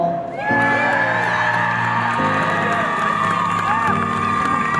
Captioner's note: audience cheering